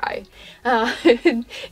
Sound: giggle

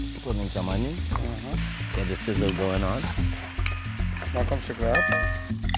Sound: sizzling

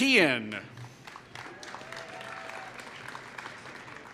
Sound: applause

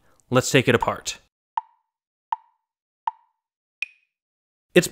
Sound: tick, tick, tick, tick, tock

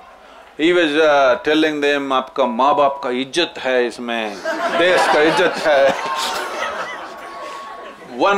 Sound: laughter

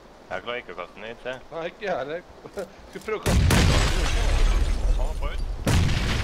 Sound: boom

